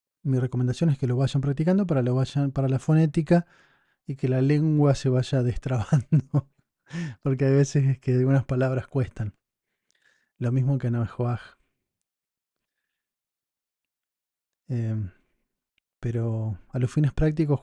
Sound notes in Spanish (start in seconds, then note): 5.8 risas